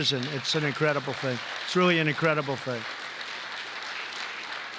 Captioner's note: applause